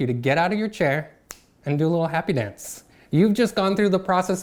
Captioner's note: snaps fingers